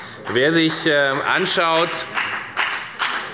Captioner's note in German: Beifall bei der FDP